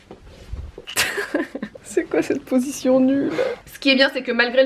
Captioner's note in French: rires